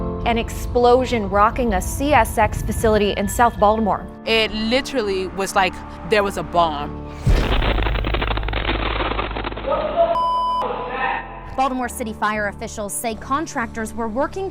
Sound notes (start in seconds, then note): 7.1 loud explosion